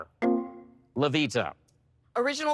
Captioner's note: electric chime